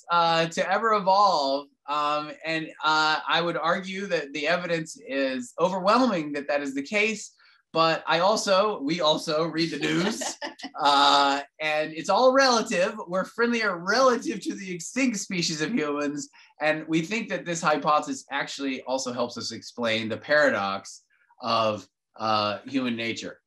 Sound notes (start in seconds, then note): 9.7 laughs